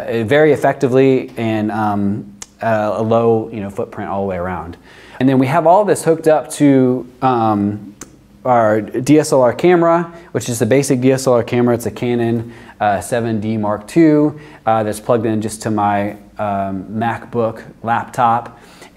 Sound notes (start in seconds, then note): none